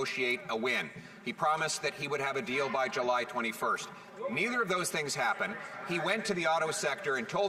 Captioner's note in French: voix de l'interprète